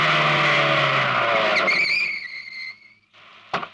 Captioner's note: brakes squeal